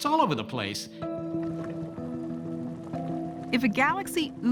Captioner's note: water bubbling